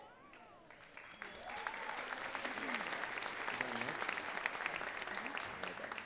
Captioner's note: audience cheering and clapping